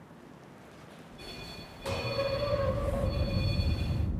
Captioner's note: beeping